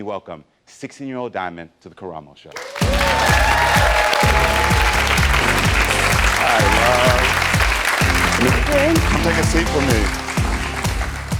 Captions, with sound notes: 16-year-old Diamond to the Karamo Show? (audience applauds) Hi, love. - Hey. - Come take a seat with me.